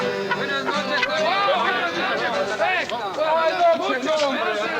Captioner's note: group speaking in Spanish